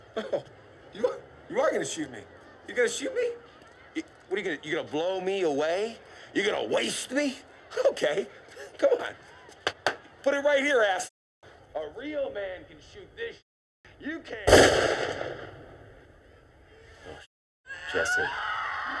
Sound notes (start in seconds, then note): 14.4 gunshot; 17.6 scream